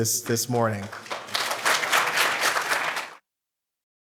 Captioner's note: applause